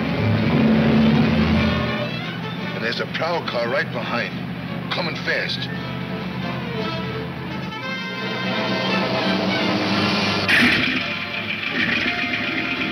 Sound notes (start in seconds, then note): 8.8 engine rumbling